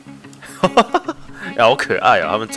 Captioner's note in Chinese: 笑聲